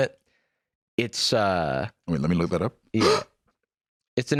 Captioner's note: gasps